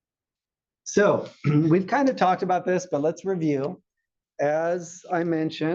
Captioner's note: cough